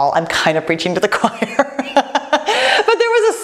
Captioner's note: laughs